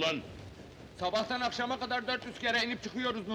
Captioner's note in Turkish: none